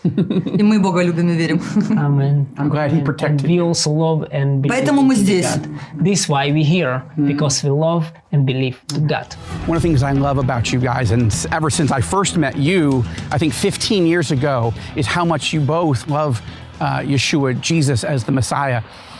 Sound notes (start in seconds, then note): 0.0 speaking in foreign language; 0.0 both chuckling; 1.1 speaking in foreign language; 5.1 speaking in foreign language